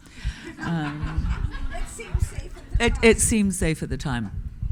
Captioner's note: audience laughing